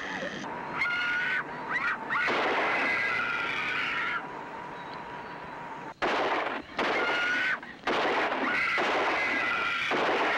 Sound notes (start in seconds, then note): 5.3 gunshots